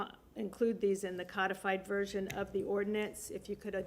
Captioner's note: none